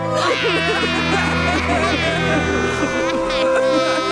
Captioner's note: all cry and wail